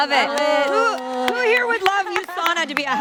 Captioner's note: panel applauding